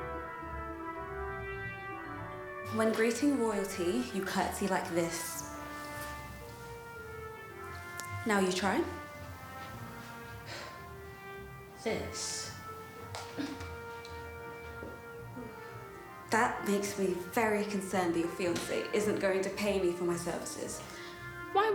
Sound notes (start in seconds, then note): 10.1 Dana exhales; 13.4 Dana grunts